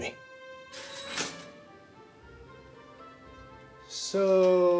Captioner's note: toaster clicks; toaster buzzing